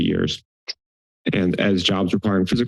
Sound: click tongue

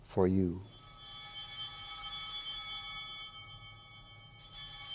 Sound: bell ringing

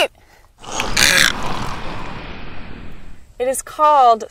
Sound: great egret croak

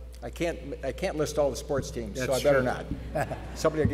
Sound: laughs

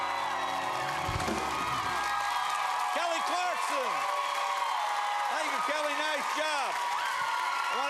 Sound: cheers and applause

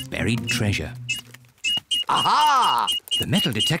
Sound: beeps quickly

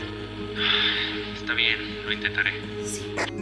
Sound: gasps

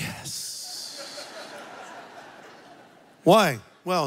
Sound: congregation laughs

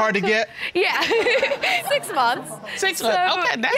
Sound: chuckles

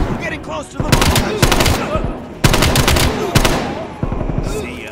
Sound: gunshots

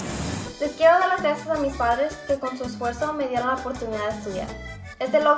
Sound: speaks in foreign language

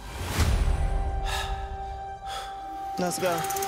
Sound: heavy breathing

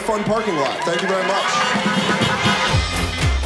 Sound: applause; cars honking

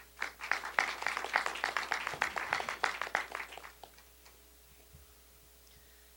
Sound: applause

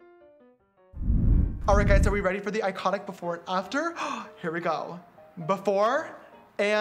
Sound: gasp

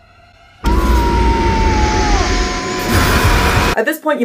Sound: screaming

